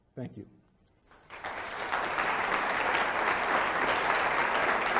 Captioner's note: crowd applauds